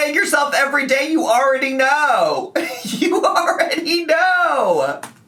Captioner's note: giggles